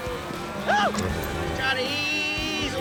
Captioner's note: shouts